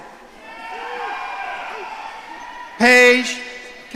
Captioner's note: audience cheering